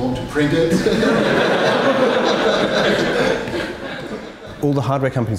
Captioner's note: crowd laughing